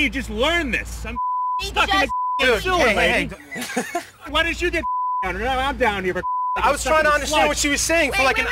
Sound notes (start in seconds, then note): 1.1 beep; 3.2 all laugh; 4.8 beep